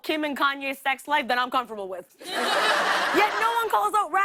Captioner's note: laughter